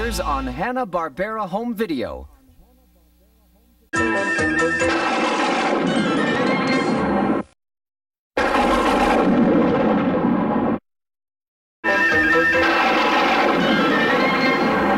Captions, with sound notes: on Hanna-Barbera Home Video. [cartoon music playing as lightning strikes] [lightning strikes] [cartoon music playing as lightning strikes]